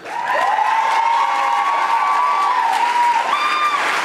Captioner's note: audience applauding